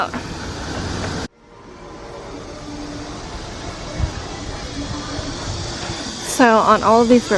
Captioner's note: cicadas being noisy